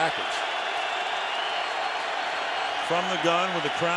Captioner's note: crowd roars